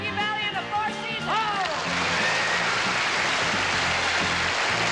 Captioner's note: applause